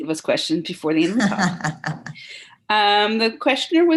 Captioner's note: laughs